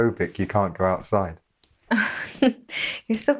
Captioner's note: Sarah laughs